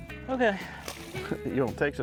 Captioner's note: water splashing; laughs